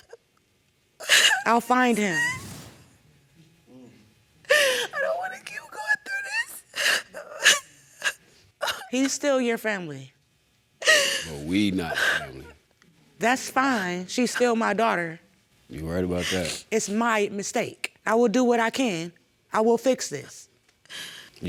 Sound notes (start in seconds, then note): 1.0 sobbing; 6.6 sobbing